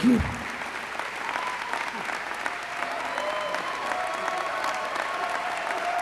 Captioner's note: applause